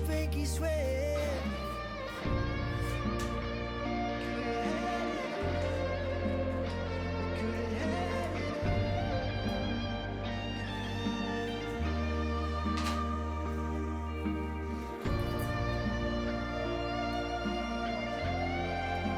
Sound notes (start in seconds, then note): 7.0 laughs